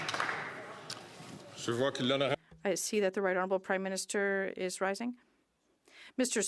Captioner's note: some Applause